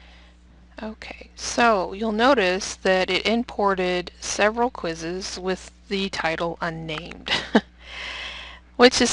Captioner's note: laughs